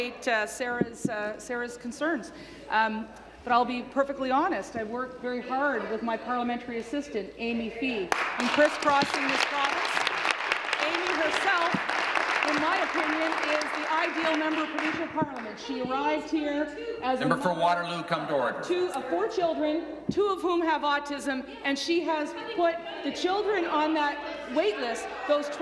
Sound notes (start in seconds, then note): 13.5 applause